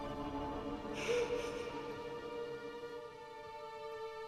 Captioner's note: William sobbing